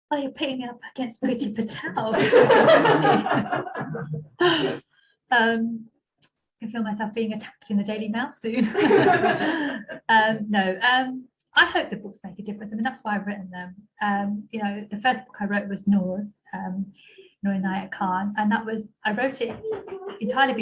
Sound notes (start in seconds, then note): 8.5 laughter